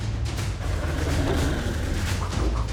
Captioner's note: creature roars